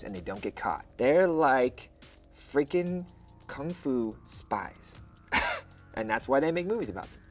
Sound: chuckles

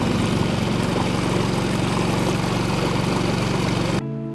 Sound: boat engine roars

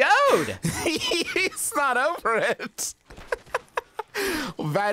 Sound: laughs

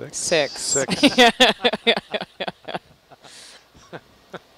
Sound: laughter

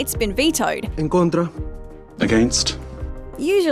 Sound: in spanish

